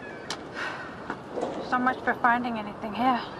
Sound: sighing

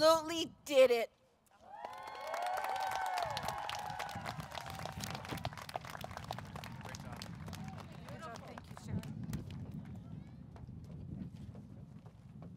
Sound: applause

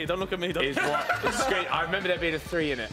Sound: laughing

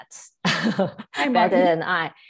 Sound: chuckling

